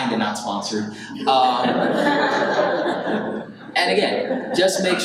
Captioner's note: audience laughs